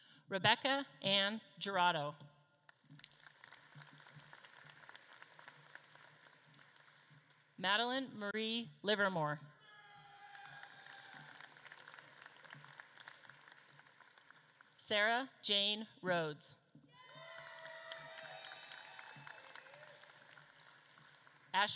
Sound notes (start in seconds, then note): 2.6 audience claps; 9.6 audience claps and cheers; 16.9 audience claps and cheers